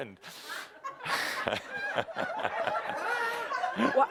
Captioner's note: laughter